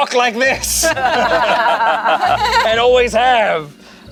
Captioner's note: everyone laughs